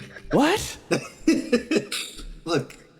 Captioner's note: tiny Laugh